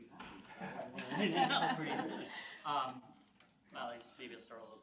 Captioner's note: laughing